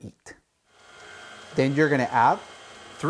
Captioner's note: mixer whirring